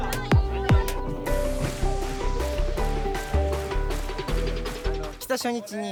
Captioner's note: thump thump thump